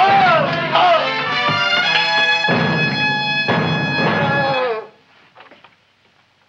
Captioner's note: dentist grunting; dramatic music; music intensifies; dentist groans